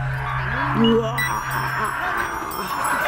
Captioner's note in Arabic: يضحك شيطانية